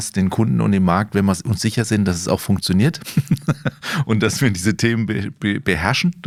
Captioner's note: laughs